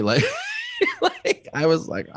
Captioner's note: laughs